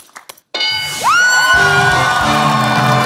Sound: bell dings; cheering/applause

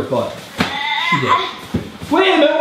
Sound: girl groans

